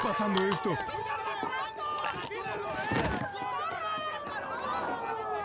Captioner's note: passengers yelling; sirens approaching